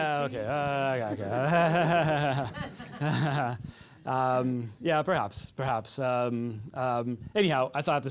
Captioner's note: laughing